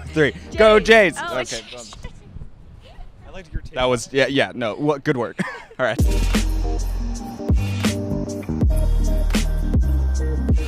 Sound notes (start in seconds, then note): 2.9 laughing; 5.9 upbeat music